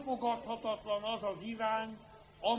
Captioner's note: none